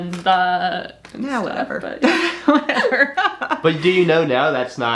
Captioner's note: laughing